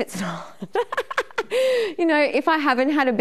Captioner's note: laughing